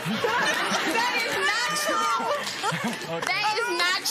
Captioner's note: laughter